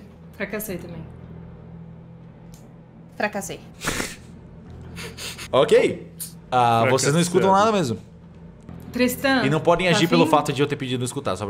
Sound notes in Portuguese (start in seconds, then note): 5.2 risos